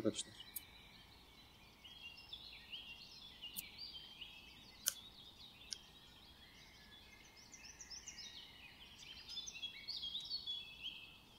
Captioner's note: bird sounds and the sound of the knife cutting the pen